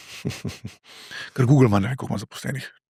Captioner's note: laughter